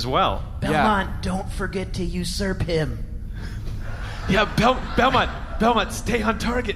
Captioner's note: whispering; whispering